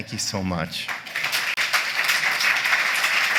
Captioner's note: applause